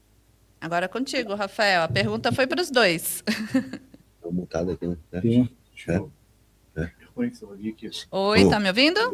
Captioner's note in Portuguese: risadas